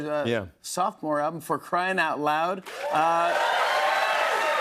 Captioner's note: cheers and applause